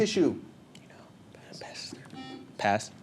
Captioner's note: whispers; buzzer